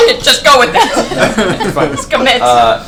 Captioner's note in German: Gelächter